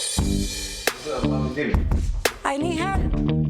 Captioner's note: dramatic upbeat music; speaking foreign language